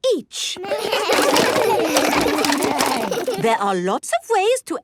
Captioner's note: all laugh